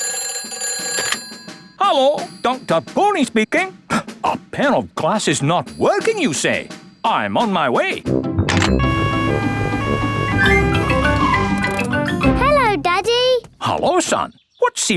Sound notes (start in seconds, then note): 0.2 ringing; 8.8 siren wailing